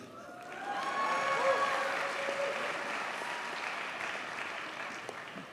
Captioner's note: audience cheers and applauds